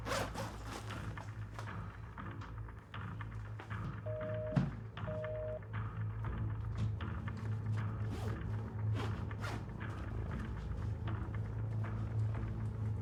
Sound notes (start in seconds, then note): 0.0 bag zip rasping; 4.0 phone line beeping; 8.9 bag zip rasping